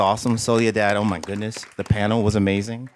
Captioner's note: applause